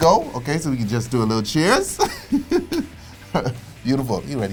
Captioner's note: laughs